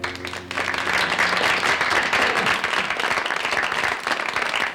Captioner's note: audience applauds